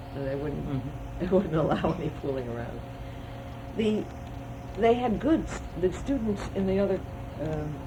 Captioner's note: laughs